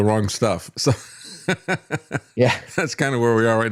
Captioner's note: laughs